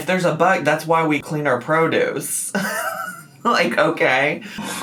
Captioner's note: laughs